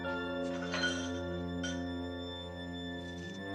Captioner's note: cutlery rattles